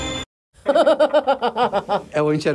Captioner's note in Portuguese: risadas